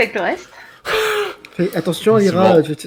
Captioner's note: laugh